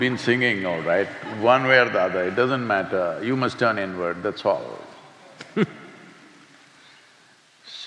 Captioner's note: laughs